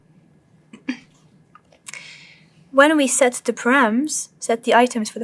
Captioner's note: cough